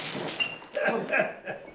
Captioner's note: water splashing; prisoner grumbling